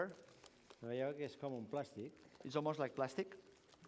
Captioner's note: non-english speech